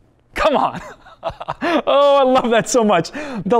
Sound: pastor: Laughter

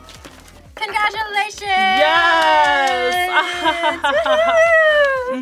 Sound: laughs

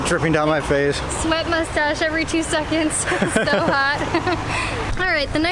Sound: laughter

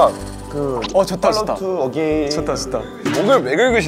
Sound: Scratch

